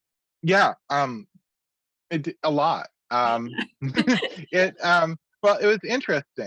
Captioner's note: laughs